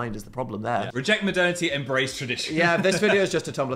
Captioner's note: laughs